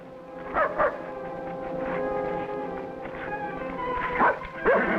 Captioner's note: Rebel barking